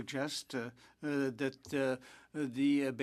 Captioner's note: speaking French